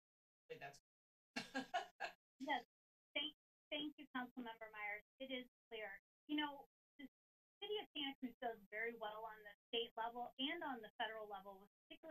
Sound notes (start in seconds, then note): 1.4 laughing